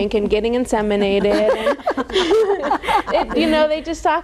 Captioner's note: all laughing